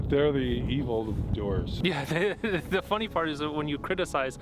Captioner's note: laughing